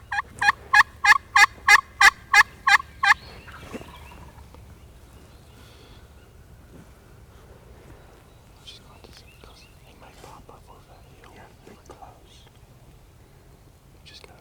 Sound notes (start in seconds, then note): 0.0 turkey call; 3.7 turkey gobble